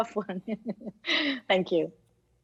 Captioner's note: speaks in Arabic; laughs